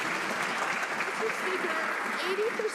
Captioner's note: some Applause